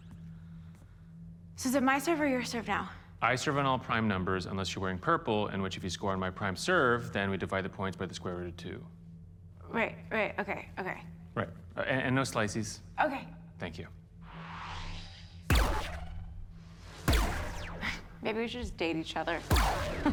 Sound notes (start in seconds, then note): 14.2 system whirs; 19.4 chuckles